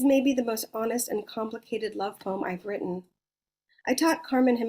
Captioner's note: none